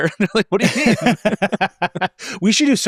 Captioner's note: laugh